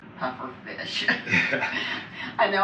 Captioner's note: laughing